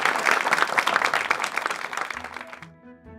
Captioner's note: applause